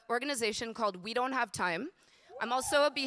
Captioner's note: audience cheering